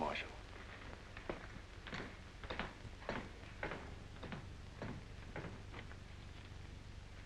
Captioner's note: footsteps